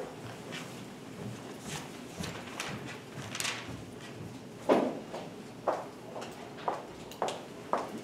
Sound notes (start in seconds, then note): 2.9 footsteps